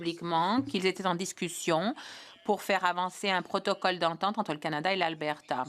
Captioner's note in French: voix de l'interprète